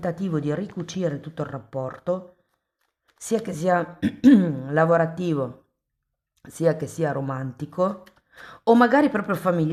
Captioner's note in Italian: schiarire la voce